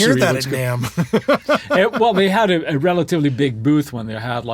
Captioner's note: laughs